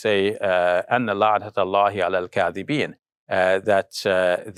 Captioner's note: foreign language